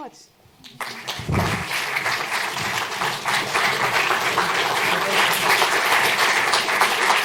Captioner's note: applause